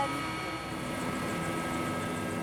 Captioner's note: chopper sounds